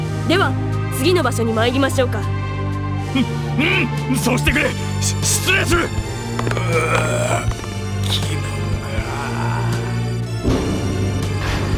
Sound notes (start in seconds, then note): 5.1 shudder